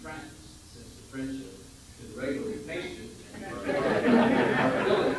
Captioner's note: general laughter